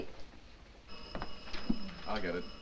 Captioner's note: telephone rings